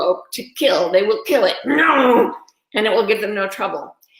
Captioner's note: growls